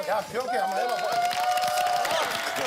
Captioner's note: laughs